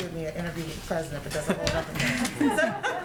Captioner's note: laughter